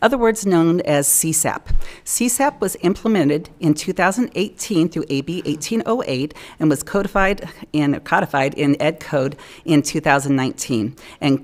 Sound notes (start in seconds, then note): none